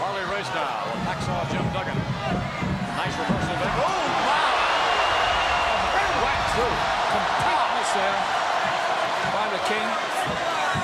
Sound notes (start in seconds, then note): 5.0 crowd cheers